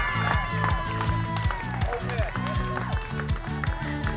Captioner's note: audience applauds